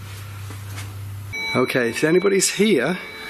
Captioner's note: bell ringing